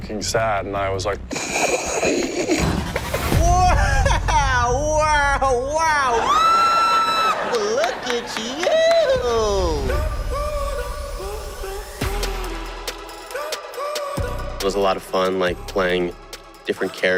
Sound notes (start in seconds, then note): 1.3 chuckles; 6.1 screams